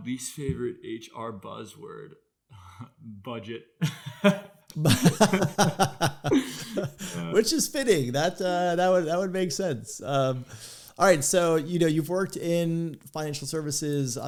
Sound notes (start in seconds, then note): 4.7 laughing